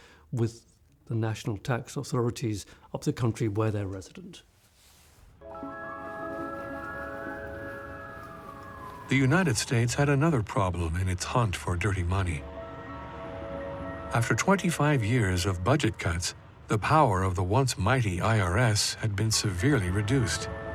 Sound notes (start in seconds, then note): 5.4 gentle music; 5.5 siren wailing